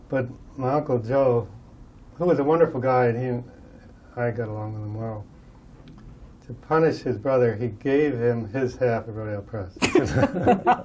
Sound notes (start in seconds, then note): 9.8 laughter